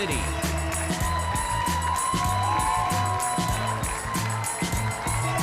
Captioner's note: audience cheering